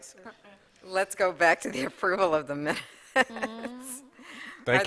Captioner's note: laughter